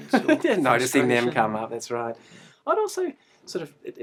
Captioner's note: laughs